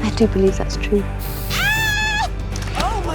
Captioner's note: aerosol hisses; Ivy screams